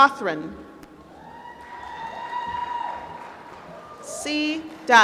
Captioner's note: applause